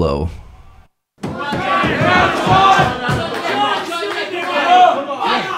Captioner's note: audience cheering